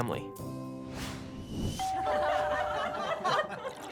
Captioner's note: bell ringing; people laughing